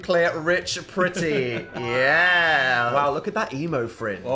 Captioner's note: laughs